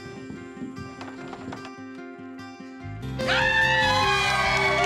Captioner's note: footsteps; door opens; everyone cheering, clapping